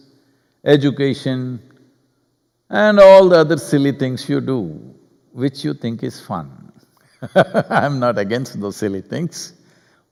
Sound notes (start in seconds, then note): 7.2 laughs